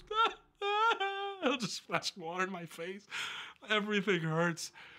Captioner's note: laugh